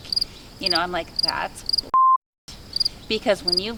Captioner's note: beep